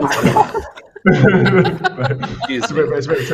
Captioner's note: laughter